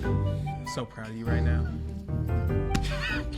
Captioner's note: both laughing; playful music